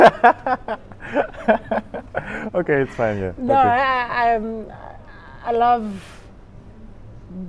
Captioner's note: chuckles